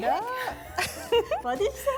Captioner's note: laughs